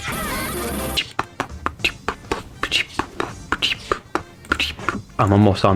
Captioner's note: intense Beatboxing